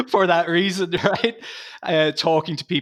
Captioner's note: laughing